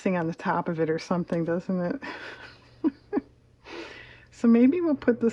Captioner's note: laughs